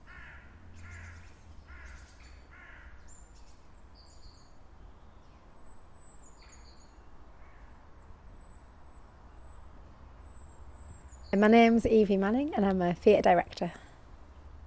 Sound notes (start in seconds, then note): 0.0 crow calling; 4.9 birds chirping